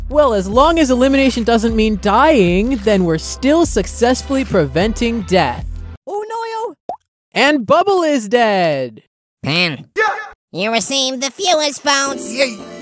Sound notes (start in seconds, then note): 6.8 pop